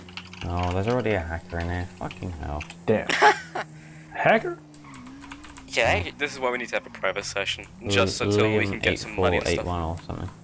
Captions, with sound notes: Oh there's already a hacker in here, fucking hell. Oh there's already a hacker in here, fucking hell. Damn... Damn... [Distant giggles.] [Distant giggles.] Hacker? Hacker? [Moans] [Moans] This is why we need to have a private session. This is why we need to have a private session. Just until we get some money and stuff. Just until we get some money and stuff.